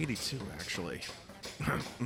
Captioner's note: whispers